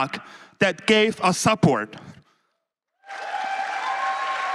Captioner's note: applause